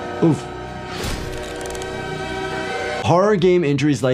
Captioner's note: eerie music; graphics thudding